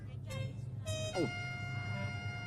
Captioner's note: gulp